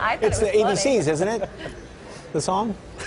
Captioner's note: laughter